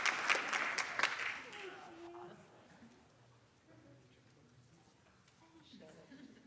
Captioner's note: applause